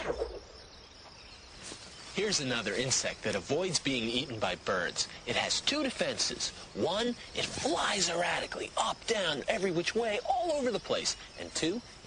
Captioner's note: leaves rustling